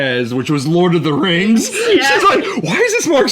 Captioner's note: laughs